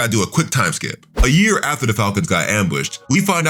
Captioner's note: air whooshing